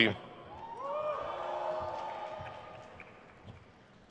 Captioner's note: crowd cheers